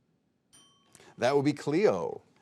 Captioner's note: bell ringing